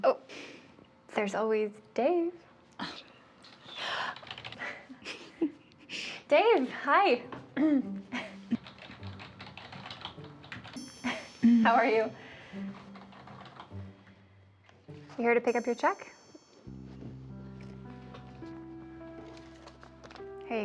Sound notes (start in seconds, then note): 4.2 keyboard keys clacking; 8.5 keyboard keys clacking; 10.6 gentle music; 12.7 keyboard keys clacking; 17.4 gentle music